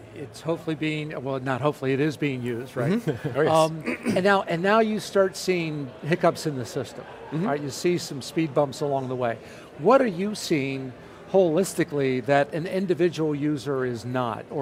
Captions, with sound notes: it's hopefully being, not hopefully, it is being used, (chuckles) right. >> Mmhmm (clears throat) >> And now you start seeing hiccups in the system, you see some speed bumps along the way. What are you seeing, holistically, that an individual user is not.